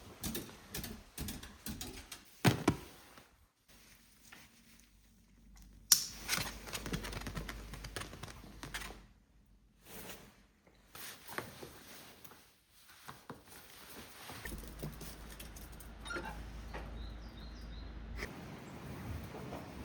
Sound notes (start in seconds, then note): 5.9 click